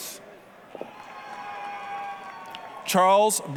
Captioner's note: applause, cheering